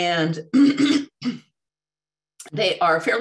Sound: clears throat

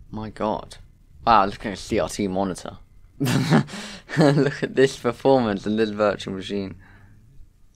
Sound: laughs

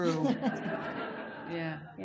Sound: audience laughs

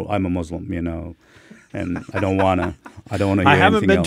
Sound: laughing

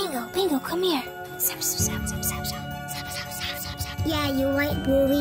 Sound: Bingo Bluey whispering

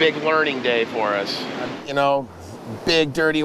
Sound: water rushing

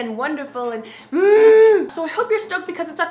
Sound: humming

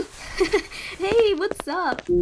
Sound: chuckles

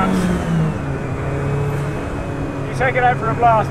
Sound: car roars

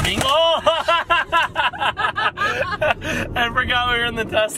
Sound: laughing

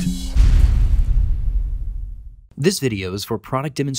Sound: metallic crashing

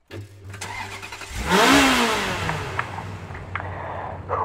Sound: car starts, engine revs

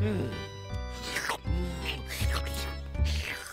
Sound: slurping

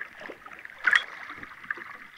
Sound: ding

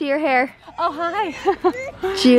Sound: chuckles

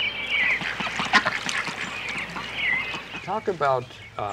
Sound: quacking

